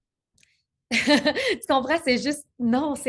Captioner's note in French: rires